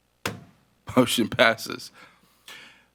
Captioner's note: gavel bangs